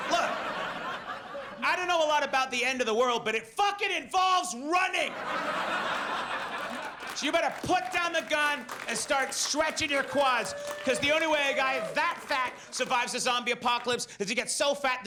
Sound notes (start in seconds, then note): 5.1 audience laughs and applauds